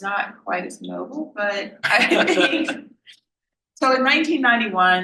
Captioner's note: laughs